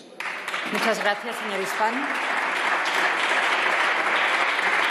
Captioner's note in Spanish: Aplausos